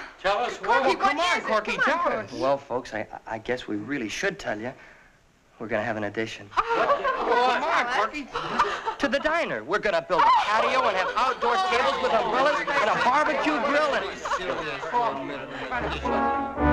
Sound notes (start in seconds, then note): 6.6 all chattering; 14.8 all chattering